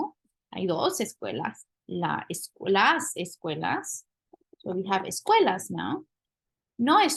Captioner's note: spanish; speaking spanish